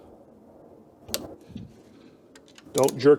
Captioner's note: click